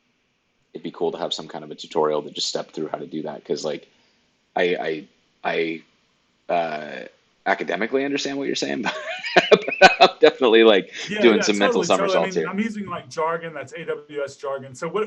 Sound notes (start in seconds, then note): 8.8 laughs